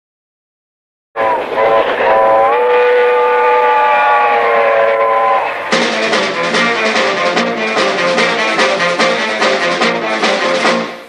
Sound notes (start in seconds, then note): 1.1 train whistle